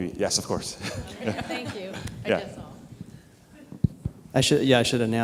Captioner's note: laughing